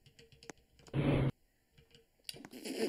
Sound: whoosh

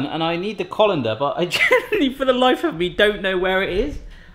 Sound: laughs

